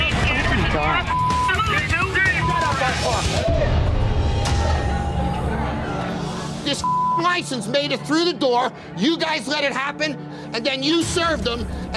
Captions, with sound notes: - Oh my God. (men screaming) - This (beeping) license made it through the door. You guys let it happen and then you served them.